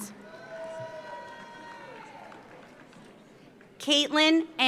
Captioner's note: audience cheers; audience applauds